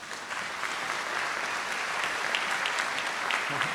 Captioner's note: audience applauds